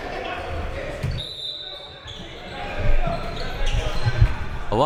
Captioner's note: whistle